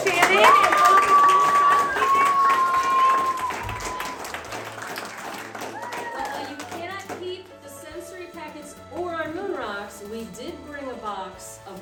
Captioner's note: applause